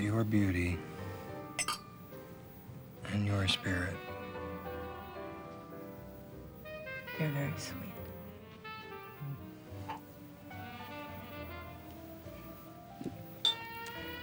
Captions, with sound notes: has got your beauty... (glasses clinking) ...and your spirit. You're very sweet.